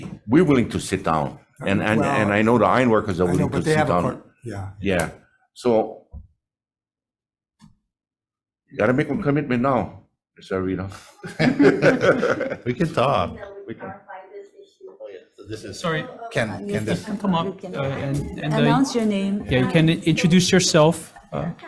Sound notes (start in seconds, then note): 11.0 group laughing; 15.4 group muttering